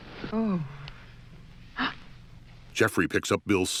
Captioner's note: Diane gasps